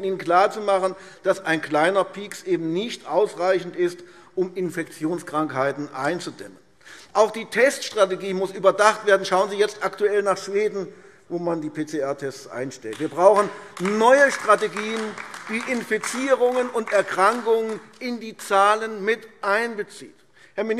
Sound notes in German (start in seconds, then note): 12.9 Beifall AfD